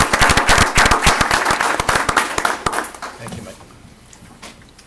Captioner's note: applause